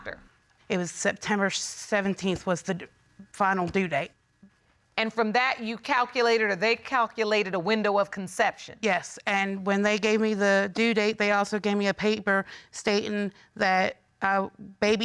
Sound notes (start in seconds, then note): none